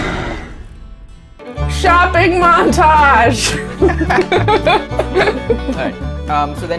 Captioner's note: laughter